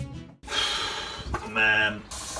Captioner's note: sighs